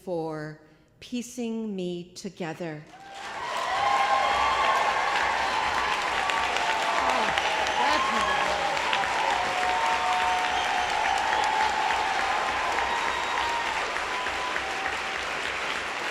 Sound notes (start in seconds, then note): 2.9 applause